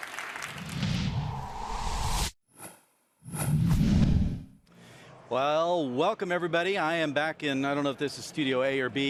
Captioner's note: applause